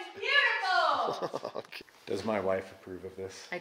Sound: laughs

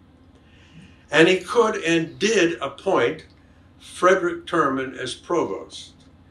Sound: none

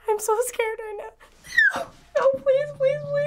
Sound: shrieking

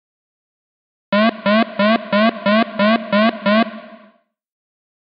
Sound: sound of street alarm

